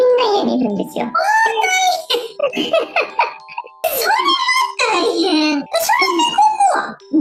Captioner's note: laughs